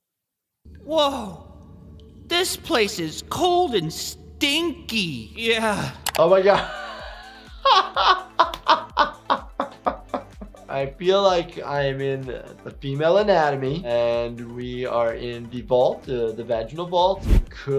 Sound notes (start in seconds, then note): 6.5 laughs